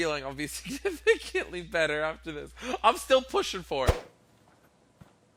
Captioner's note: giggles